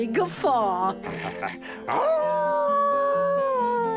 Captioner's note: wolf howls